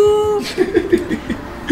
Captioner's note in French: rires d'